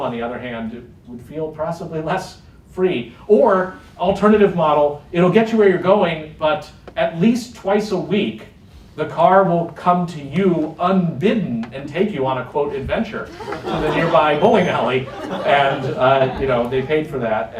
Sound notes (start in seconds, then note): 13.2 laughter